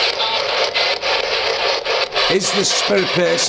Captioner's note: ghostly voice crackling